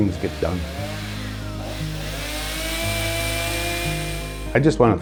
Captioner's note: chainsaw buzzes